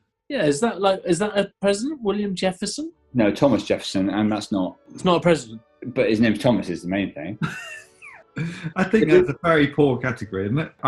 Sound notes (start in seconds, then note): 7.9 sniggering